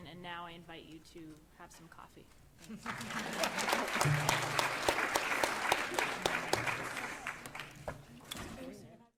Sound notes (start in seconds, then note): 2.8 audience applauding